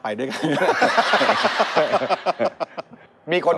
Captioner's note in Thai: หัวเราะ